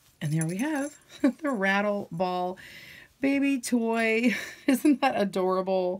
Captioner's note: chuckles